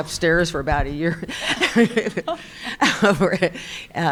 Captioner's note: laughing